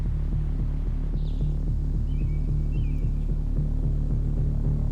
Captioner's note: birds singing